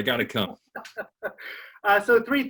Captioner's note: laughs